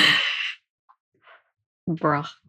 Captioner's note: lauging; laughs